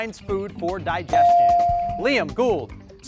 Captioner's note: bell ring